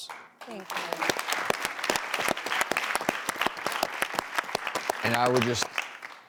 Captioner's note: audience applauds